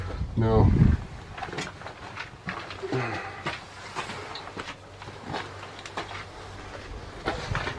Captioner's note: sigh